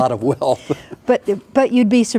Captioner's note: laughing